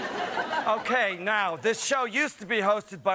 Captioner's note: laughter